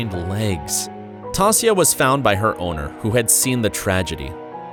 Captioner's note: sad voice